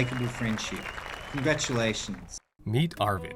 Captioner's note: crowd applauding